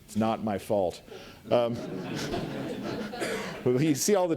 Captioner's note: audience laughs